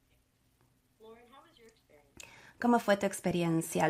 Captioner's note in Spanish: a través de intérprete